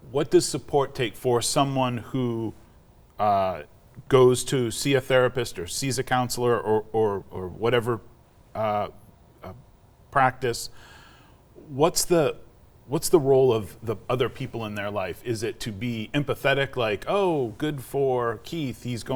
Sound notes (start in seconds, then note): none